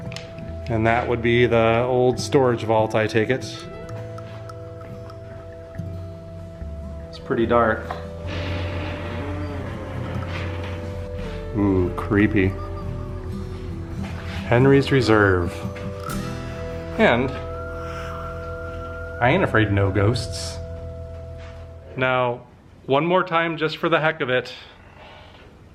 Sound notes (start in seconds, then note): 8.2 door slowly creaking